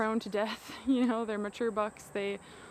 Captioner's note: chuckles